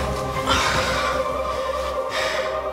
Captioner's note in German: Fabienne stöhnt